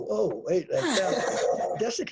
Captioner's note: laughs